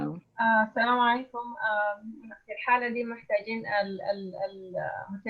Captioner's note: in foreign language